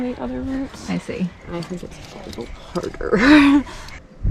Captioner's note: laughs